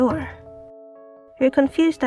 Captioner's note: knocking sounds